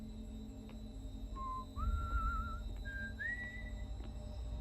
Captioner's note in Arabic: صفير